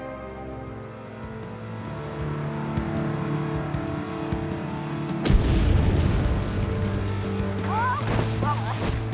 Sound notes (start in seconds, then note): 5.2 boom